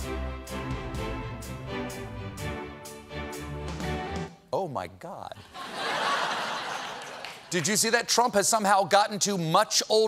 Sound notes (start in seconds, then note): 5.4 laughter